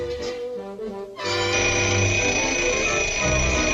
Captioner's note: phone ringing